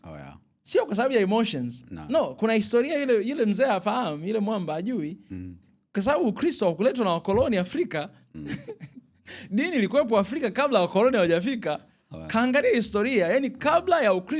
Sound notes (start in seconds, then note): 8.4 laughter